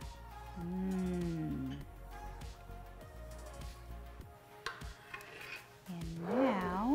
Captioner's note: soft music; woman wows